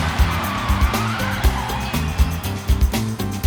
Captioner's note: cheering; screeching